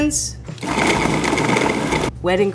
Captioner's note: food processor whirs